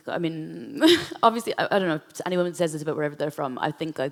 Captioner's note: laughs